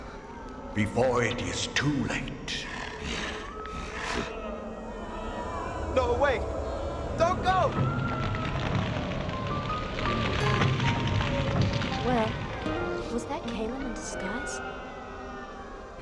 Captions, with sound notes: before it is too late. (Drago growls) - No, wait! Don't go! - Will, was that Kalem in disguise?